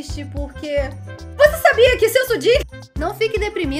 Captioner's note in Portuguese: imitando comercial